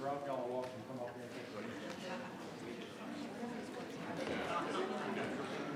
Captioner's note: attendees chattering begins